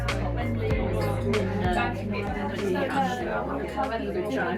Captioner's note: background chatter